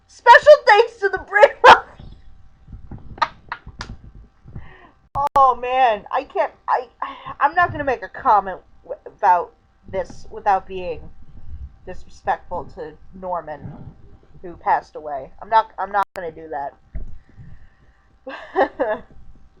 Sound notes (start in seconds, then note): 6.1 stammering